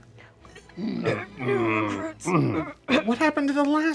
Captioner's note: rasping